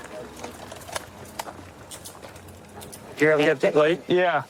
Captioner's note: handcuffs clicking